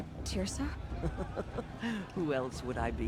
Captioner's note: laughs